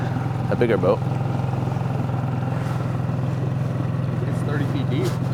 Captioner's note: motor burbling